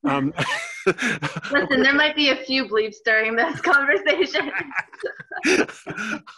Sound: laughing

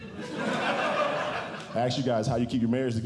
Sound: audience Laughing

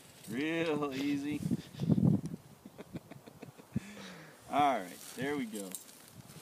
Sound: laughing

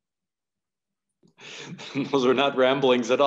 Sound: chuckles

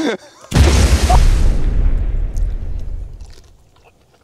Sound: grenade explodes

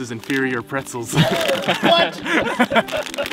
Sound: all laughing

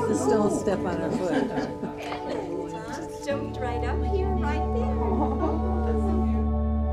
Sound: ambient noise, happy voices

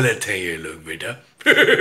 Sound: Zardari Laughs

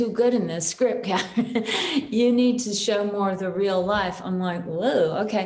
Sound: chuckles

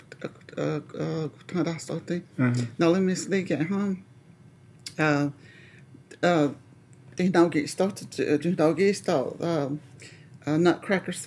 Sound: speaking Cherokee; speaking Cherokee

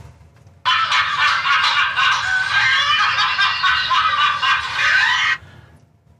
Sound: laughter

